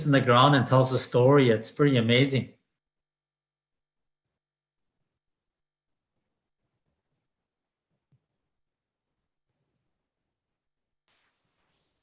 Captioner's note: silence